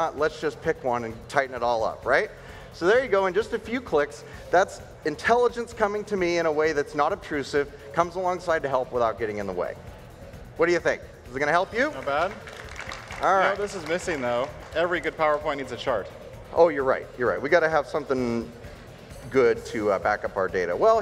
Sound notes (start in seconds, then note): 11.8 audience applauds